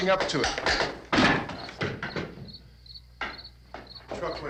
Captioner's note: wood clattering